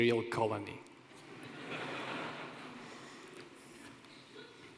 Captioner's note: laughter